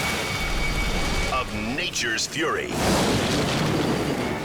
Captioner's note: thunder booms; air whooshes